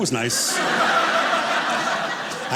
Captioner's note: audience laughing